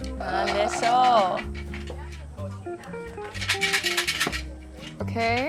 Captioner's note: speaking foreign language